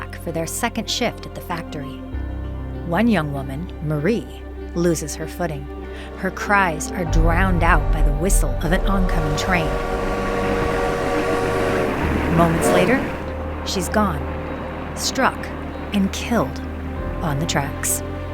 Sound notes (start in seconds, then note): 8.8 train whistling